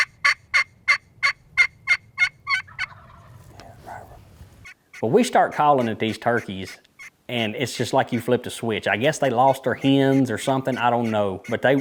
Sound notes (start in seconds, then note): 3.0 turkey gobbling